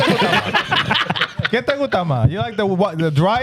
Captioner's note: laughing; speaking In Foreign Language